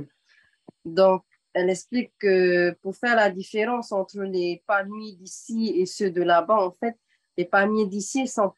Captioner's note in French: En français